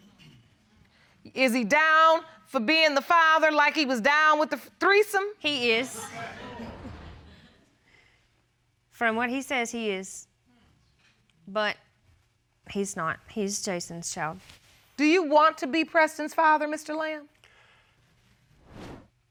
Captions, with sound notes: Is he down for being the father like he was down -with the threesome? -He is. [chuckles] From what he says, he is. But he's not. He's Jason's child. Do you want to be Preston's father, Mr. Lamb?